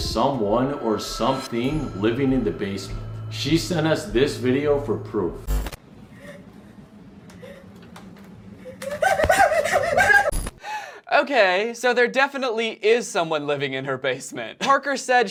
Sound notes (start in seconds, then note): 8.8 dramatic gasping